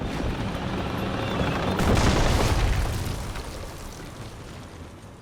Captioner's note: mine exploding